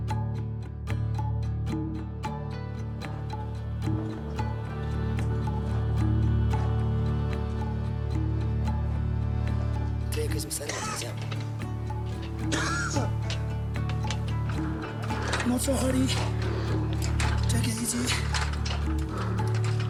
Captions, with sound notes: (speaking in Sherpa language) (slow music) Not so hurry. Take it easy.